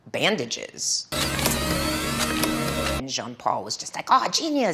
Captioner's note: machine whirring loudly